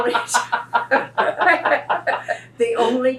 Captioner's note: laughter